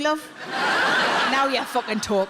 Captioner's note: audience laughs